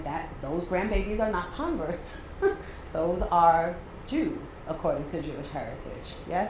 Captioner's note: laugh